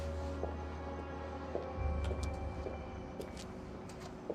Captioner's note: footsteps tapping